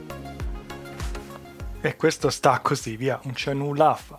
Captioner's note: upbeat music; speaking in foreign language; upbeat music